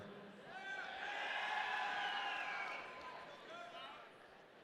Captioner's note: audience cheering